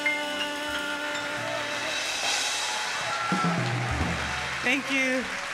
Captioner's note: audience cheering; audience applauding